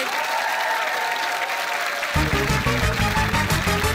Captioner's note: applause